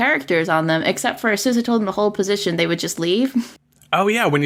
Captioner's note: laughs